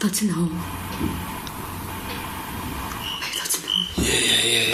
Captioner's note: soft tapping